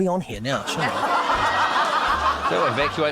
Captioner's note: laughter